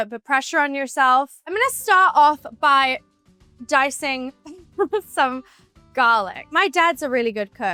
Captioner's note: giggles